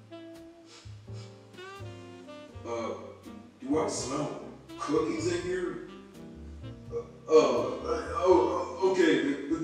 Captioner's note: sniff